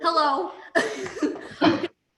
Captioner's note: laughing